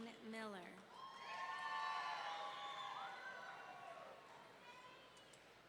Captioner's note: audience cheering